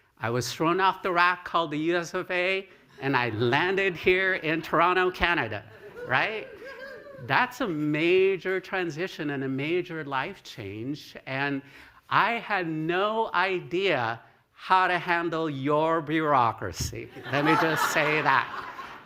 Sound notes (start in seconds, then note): 6.5 cheering; 17.1 laughter